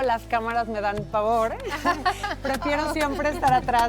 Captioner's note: laughing